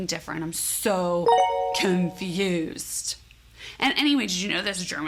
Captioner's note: chime tinkling